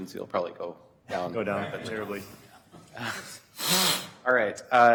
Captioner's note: chuckling